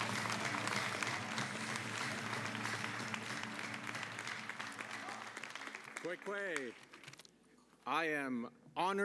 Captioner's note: cheering and applause